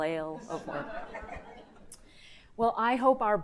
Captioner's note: audience laughing